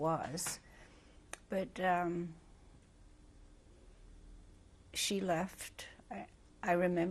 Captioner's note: pauses for 3 seconds